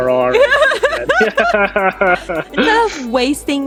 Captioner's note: laughing